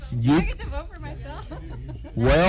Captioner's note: laughter